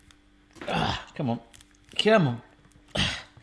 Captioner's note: grunts